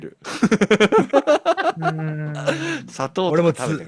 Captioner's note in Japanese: 笑い